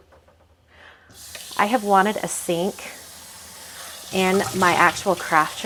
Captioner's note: water runs